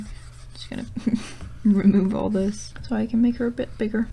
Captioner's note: chuckle